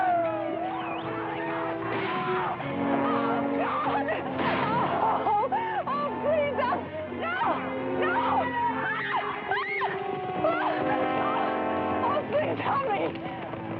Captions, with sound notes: [Gunshot] 'Oh, please..' 'no! No!' [Carrie screams] Oh, please, help me!